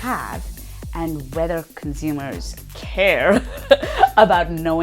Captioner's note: laughing